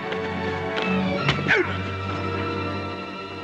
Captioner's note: suspenseful music; grunts